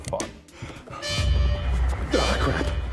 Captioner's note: alarm blaring